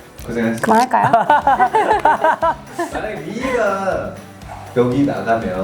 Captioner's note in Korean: 웃음